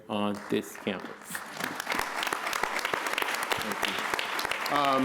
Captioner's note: applause